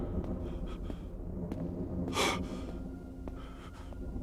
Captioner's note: breathing shakily throughout